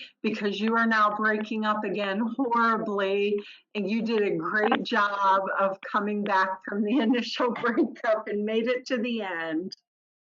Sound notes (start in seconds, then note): 6.8 laughs